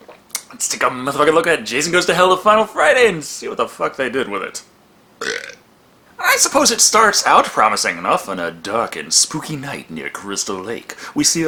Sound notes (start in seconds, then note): 5.2 belches in a manly manner